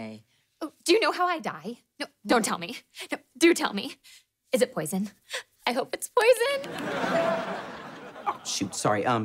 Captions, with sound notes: Oh. Do you know how I die? No, don't tell me. Do tell me. Is it poison? I hope it's poison. [phone chiming] Uh, shoot. Sorry.